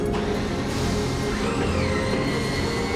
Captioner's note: door squeals